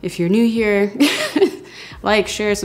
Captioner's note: laughing